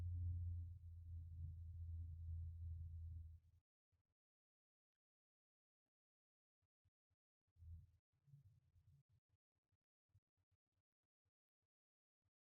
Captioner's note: silent Meditation